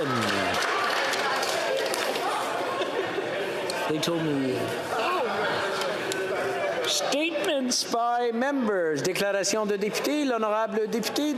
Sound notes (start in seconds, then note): 0.0 applause; 8.1 chatter; 10.6 speaking French